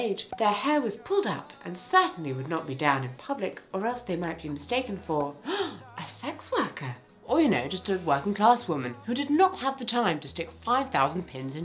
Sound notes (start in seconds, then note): 5.4 gasps